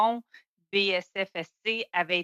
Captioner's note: speaking french